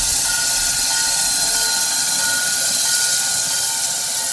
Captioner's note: train chime